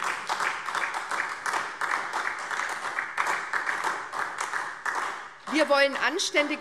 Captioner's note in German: Beifall SPD